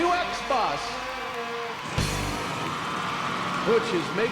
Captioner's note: crowd cheering